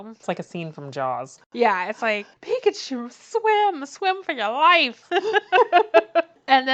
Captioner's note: laughs